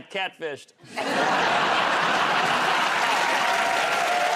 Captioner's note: laughter